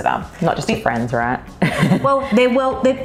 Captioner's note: laughs